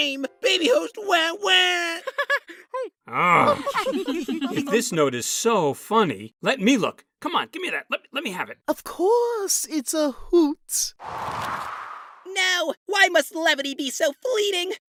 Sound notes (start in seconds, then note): 3.3 contestants giggle